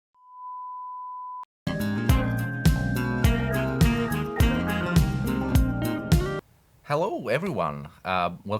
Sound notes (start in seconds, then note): 0.0 tone